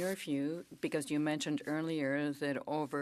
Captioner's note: speaking French